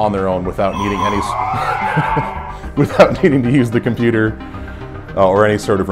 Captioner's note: vest startup sound and laughing